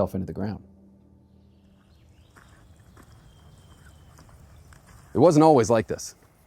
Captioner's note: footsteps on gravel. Wind in trees. Birds chirping in the distance